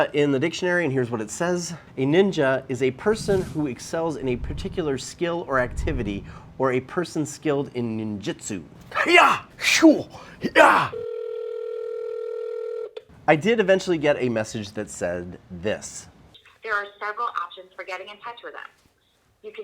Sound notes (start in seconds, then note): 10.4 imitates fighting noises; 11.0 phone ringing